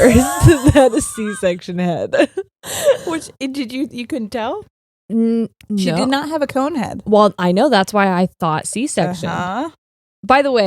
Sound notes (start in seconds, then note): 1.8 both laughing